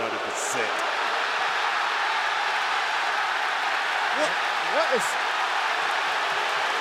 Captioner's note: applause